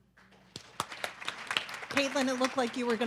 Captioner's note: audience clapping